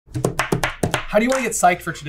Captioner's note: tap tap tap tap tap, tap tap